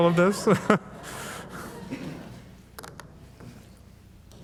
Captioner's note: audience laughing